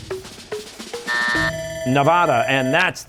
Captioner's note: buzzer, bell ringing